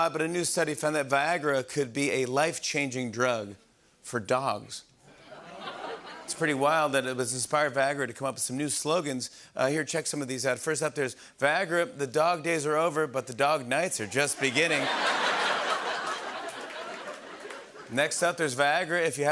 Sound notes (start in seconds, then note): 5.1 laughter; 14.2 laughter and applause